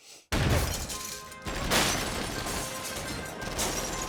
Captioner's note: gunfire